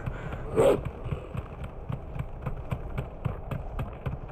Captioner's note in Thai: เห่า